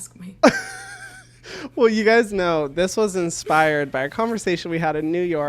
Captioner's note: laughs